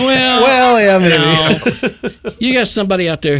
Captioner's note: person laughing